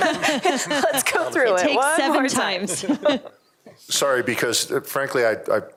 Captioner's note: laughter